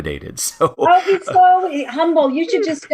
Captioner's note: laugh